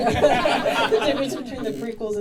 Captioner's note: audience laughing